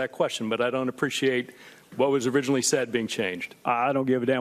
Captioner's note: none